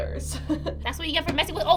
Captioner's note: chuckles